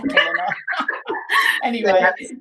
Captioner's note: both laughing